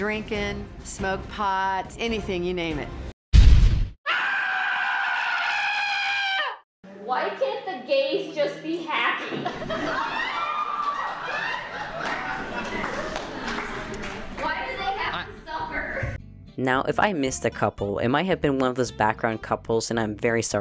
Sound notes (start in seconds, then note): 3.3 explosion